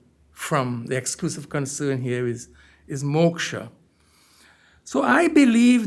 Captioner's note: hindi